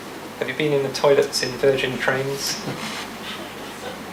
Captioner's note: audience member laughs